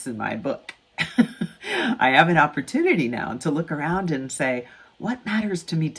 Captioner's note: chuckles